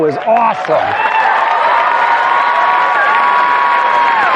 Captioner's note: ecstatic cheering and applause